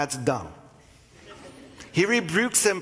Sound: congregation laughing

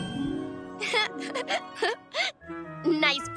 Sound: chuckles nervously

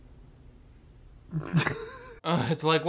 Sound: laughing

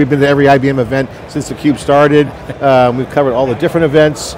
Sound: chuckles

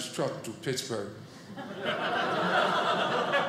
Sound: audience laughing

